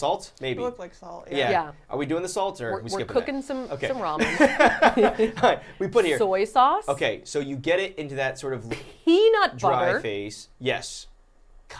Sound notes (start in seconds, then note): 4.0 all laughing